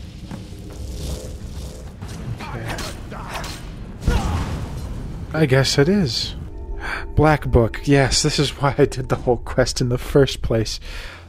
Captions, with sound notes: Okay... I guess it is. (gasps) Black book, yes. This is why I did the whole quest in the first place.